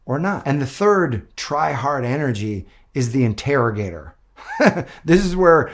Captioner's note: laughs